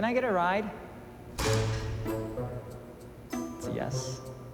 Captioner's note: door banging